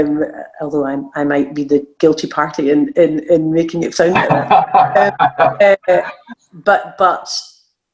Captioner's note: laughing